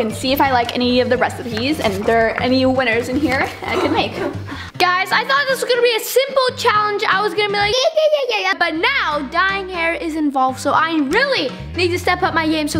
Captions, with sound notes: and see if I like any of the recipes, and if there are any winners in here, I can make. - Guys, I thought this was gonna be a simple challenge, I was gonna be like. (babbling) But now, dyeing hair is involved, so I really need to step up my game